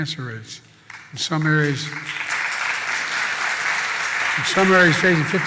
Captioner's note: applause